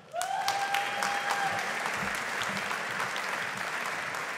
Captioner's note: audience applauding